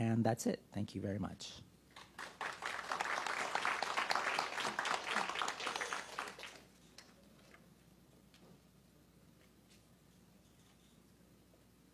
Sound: applause

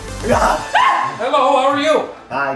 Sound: woman screaming

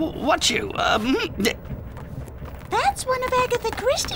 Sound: laughs nervously

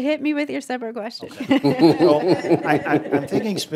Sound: laughter

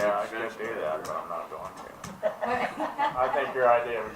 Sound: laughter

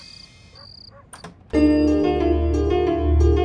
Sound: door opening

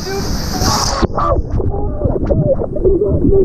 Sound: splashing

